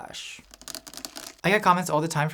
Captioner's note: tapping